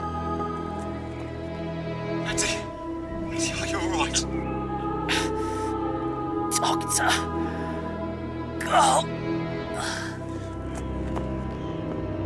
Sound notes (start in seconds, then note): 7.2 in agony